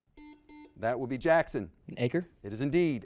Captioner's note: buzzer beeps